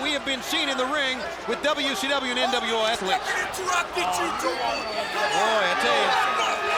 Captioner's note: wrestler yelling